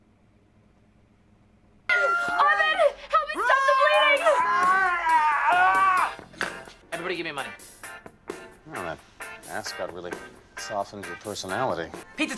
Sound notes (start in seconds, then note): 3.2 PIERCE screams